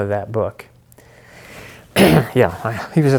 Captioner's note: clearing throat